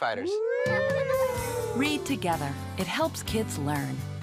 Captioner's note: kids imitate a siren